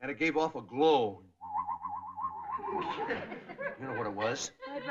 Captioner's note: weird whistling